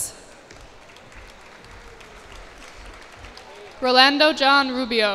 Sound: cheers and applause

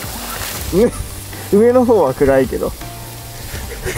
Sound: laughs

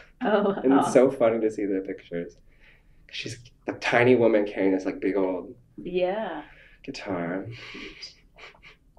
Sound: laughs

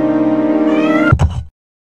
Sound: meow

